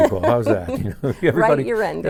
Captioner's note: laughing